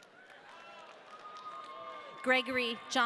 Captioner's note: audience cheering